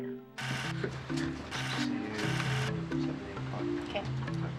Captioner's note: speaking faintly